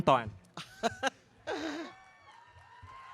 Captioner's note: laughing